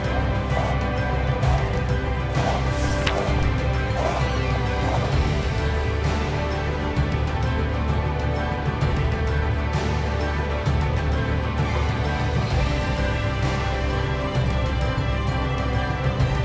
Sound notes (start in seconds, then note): 0.2 footsteps through snow; 2.7 page turns